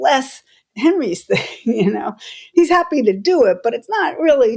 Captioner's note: laughter